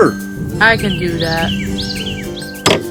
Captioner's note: birds chirping; hammering